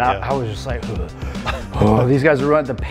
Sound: gasping

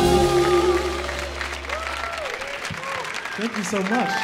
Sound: audience applauds

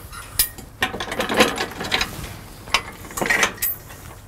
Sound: metal clanking

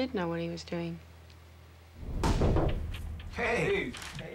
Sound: knocking

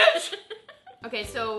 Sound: laughs

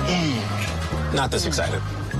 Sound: grunting

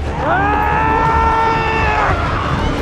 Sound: yells

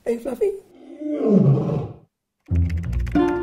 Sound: Fluffy roars

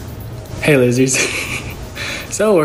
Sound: chuckles

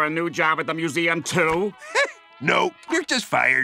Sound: chuckles

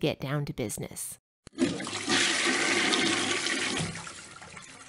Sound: flushing

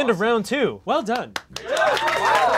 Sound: claps

